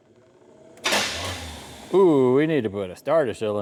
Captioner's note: metal Clanking